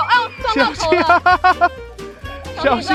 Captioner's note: laughs